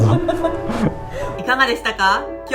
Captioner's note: laughs